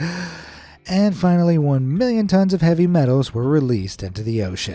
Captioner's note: gasping